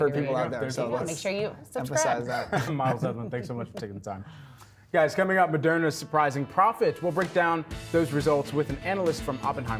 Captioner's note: laughter